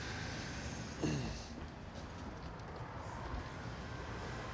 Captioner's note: Mark grunts